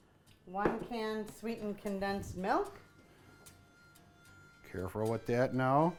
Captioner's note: voiceover